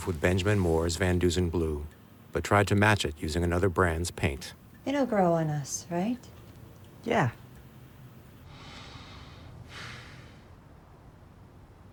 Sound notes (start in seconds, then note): 9.8 man sighs